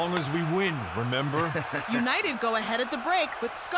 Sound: awkward chuckling

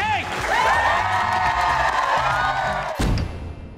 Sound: cheers and applause

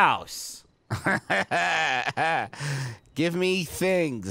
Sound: laughing

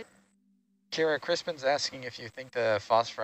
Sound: male Voice

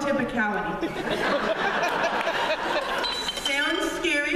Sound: laughter and glass bottle falling over in audience

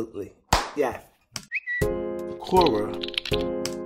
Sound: whistle; typing

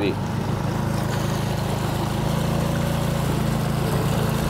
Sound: boat motor roaring

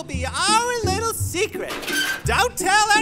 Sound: soundbite of dumpster lid opening

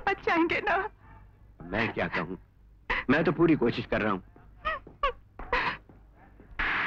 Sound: sobbing

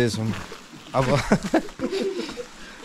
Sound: laughter

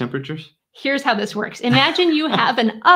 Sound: laughing

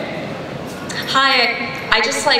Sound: voiceover

